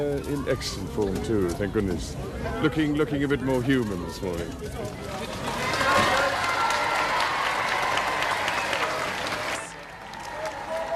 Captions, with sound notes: - He's in excellent form, too, thank goodness. Looking a bit more human this morning. (crowd cheering)